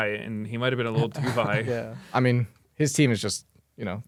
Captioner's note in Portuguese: risos